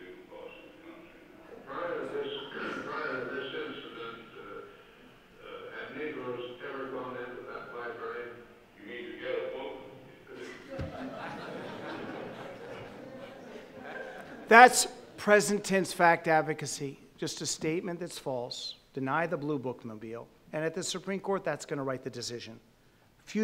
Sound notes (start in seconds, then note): 10.3 audience laughing